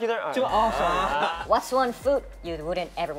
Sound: all laughing

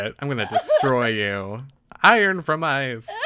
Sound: laughs

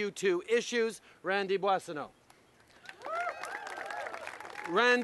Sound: applause

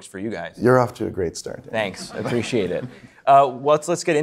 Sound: audience chuckling

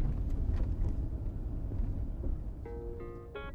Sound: engine rumbles; slow guitar music

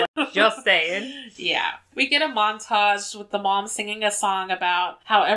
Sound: laughs

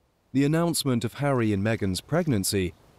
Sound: voiceover

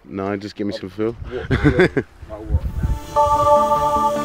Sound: laughing

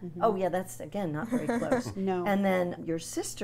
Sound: laughs

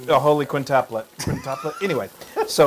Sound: laugh

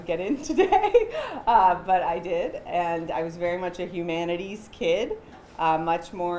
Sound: chuckles

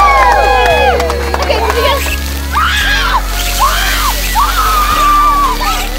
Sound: kids screaming

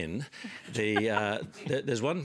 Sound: laughter

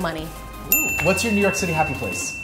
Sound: bell dinging

